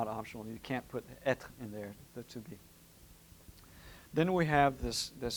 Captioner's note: french